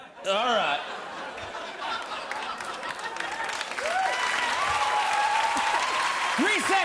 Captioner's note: laughter and applause